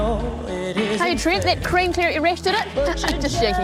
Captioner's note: chuckles